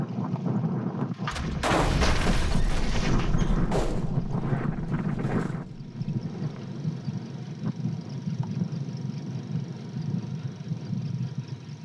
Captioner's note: thunder